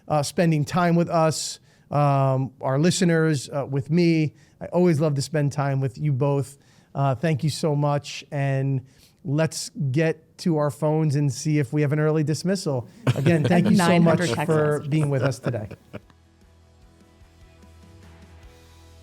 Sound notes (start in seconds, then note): 12.8 laughing; 16.2 upbeat music